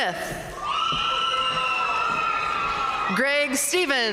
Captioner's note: audience cheering and applauding